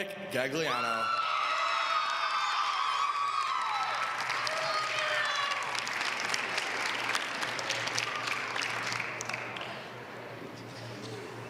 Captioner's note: applause